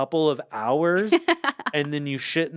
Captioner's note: laughs